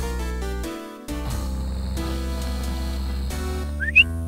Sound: snore; Polly whistles, squawks

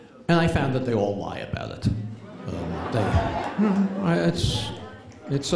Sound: chuckles

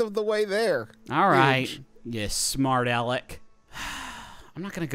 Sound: sighs

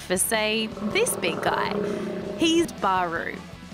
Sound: growling

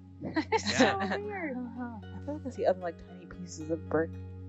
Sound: all laughing and exclaiming

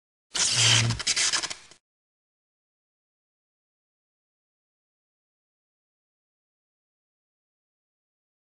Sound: sparking sound

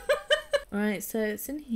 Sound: laughs

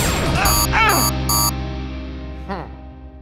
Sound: Shakes groaning; beeps

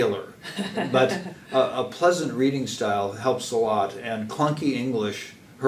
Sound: laugh

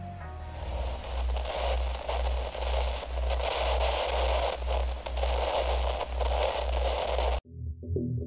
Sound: radio static noise

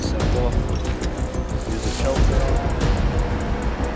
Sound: exciting music; shackles rattling

